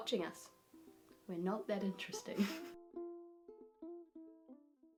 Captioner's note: giggles